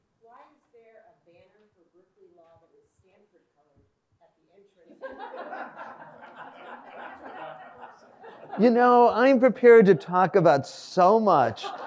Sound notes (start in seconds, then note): 5.0 audience laughs